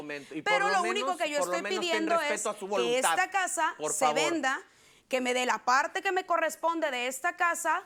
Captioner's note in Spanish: Hablan al unísono